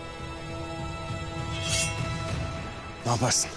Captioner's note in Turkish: Kılıç sesi